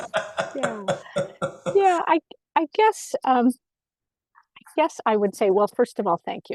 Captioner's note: laughing